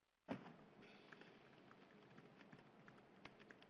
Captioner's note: typing